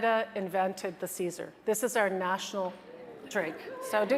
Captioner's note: audience chattering